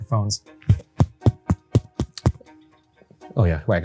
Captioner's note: mic tapping